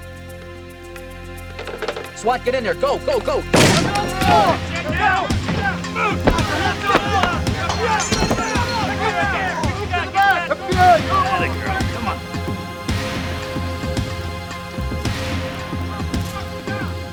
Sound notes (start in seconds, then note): 0.0 suspenseful music; 3.6 agents shouting; 3.8 door thuds; 13.3 suspenseful music